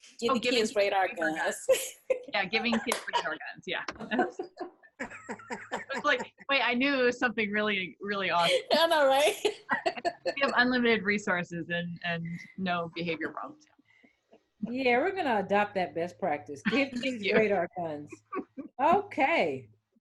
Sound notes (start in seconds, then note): 2.0 panel chuckles; 9.3 chuckles